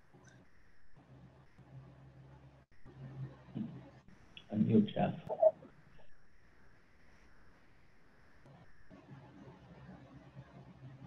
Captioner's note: silence